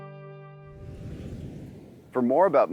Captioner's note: whooshing